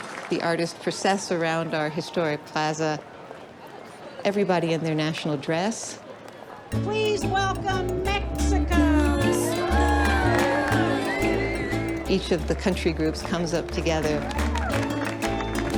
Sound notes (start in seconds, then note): 12.0 cheering and applause